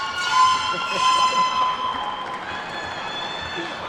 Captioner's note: horn shrieking; attendees whooping and clapping